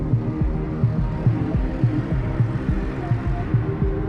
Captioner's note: none